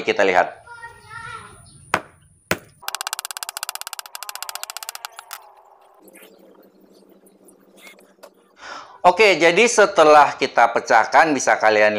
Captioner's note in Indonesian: Suara pukulan martil